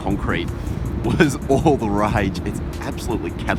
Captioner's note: laughs